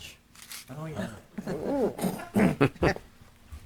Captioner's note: laughing